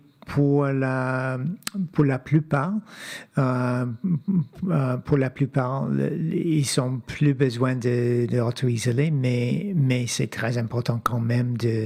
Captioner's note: speaking French